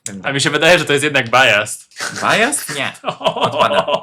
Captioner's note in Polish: śmiech